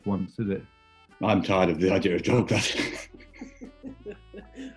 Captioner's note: chuckling